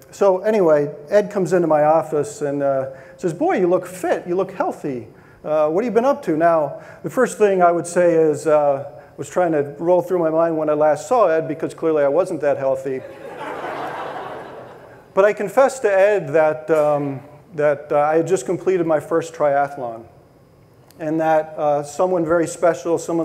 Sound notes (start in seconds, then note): 13.0 audience laughing